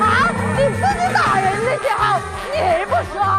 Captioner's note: voice cracking with rage